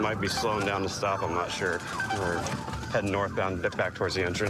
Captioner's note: sirens blaring